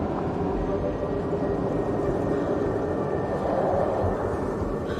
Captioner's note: plane flying overhead